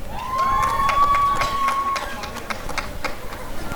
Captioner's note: applause and cheering